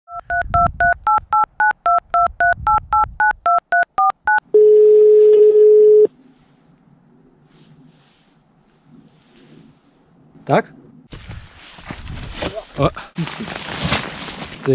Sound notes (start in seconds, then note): 0.0 number dialing; 4.5 phone rings